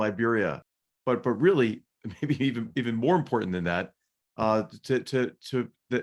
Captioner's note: laugh